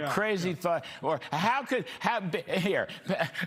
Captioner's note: laughter